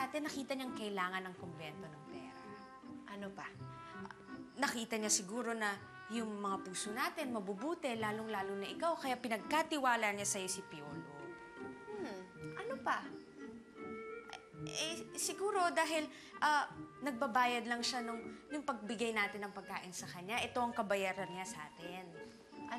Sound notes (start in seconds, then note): 14.2 stammers